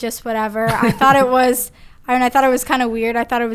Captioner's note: Gary laughs